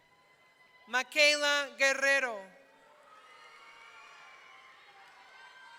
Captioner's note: audience cheering